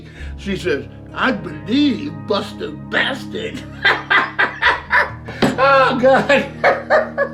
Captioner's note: laughs